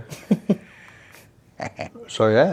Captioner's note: laughs